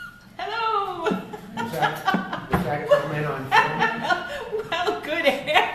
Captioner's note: laughter